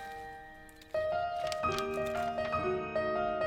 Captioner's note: pages rustling